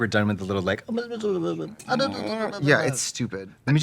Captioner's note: both murmur baby sounds